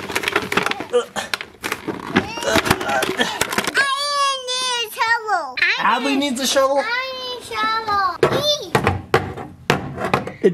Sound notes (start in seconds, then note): 0.0 bucket friction noises; 7.8 green shovel hits on door